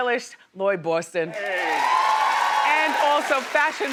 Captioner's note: crowd cheers